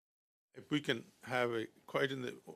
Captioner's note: speaking French